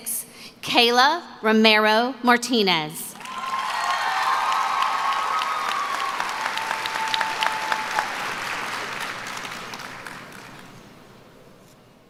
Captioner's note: cheering; applause